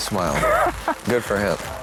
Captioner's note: l lauaughghs s